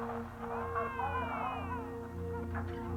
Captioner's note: baby crying